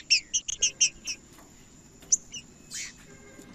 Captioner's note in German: trinca ferro cantando